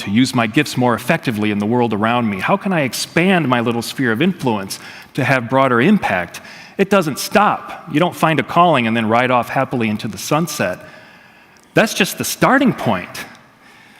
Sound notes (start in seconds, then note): none